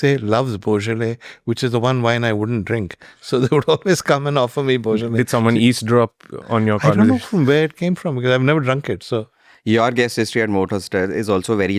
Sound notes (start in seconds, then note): 4.1 laughs